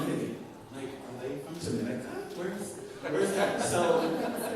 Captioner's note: laughter